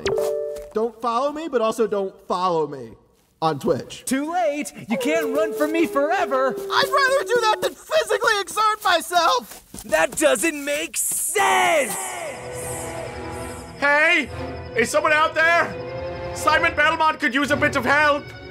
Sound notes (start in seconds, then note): 11.3 voice reverberates